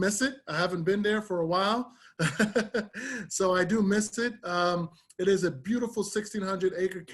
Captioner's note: laughter